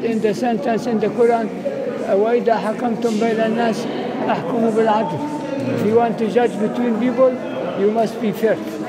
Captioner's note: Arabic